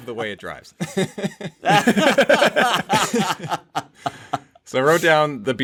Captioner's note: laughter